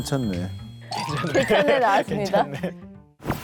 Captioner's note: laughing out loud